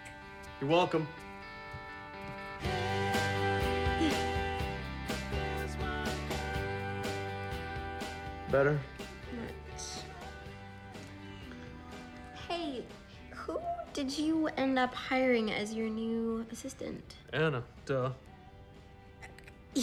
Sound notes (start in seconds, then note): 3.7 grunts